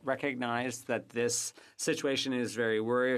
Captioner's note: speaking French